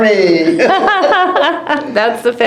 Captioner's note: laughter